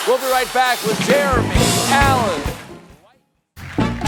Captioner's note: cheers and applause